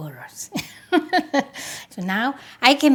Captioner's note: laughs